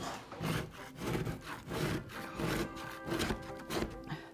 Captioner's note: wood scraping